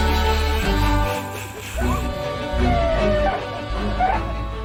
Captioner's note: snickering; siren chirping